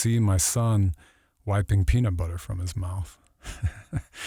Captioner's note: laughs